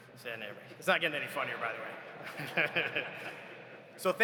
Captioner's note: laughs